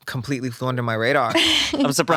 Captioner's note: laughs